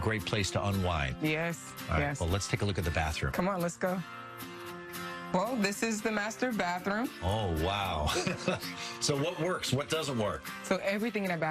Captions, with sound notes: - Yes. - All right. Well, let's take a look at the bathroom. - Come on, let's go. [guitar playing] Well, this is the master bathroom. - Oh, wow. [chuckles] So what works? What doesn't work? - So everything in our bathroom must go,